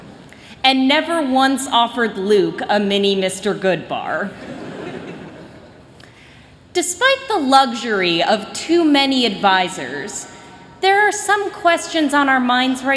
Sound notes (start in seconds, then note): 4.4 chuckling